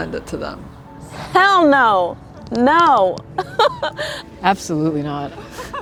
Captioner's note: laughing